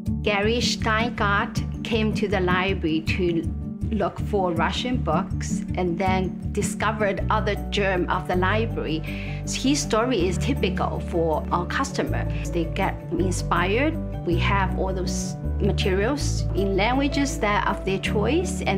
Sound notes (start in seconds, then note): none